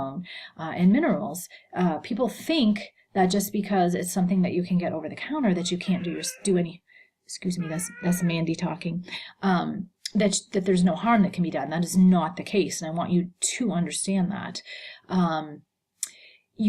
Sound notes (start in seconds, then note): 7.6 cat meowing